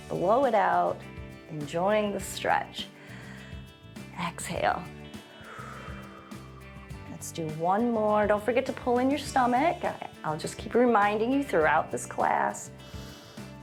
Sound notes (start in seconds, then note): 4.9 exhales